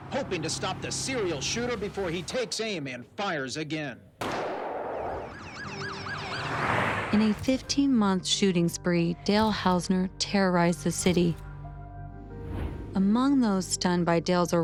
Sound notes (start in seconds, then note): 4.2 gunshot; 4.9 sirens wailing